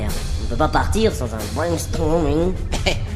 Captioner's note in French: fort accent anglais sur ce mot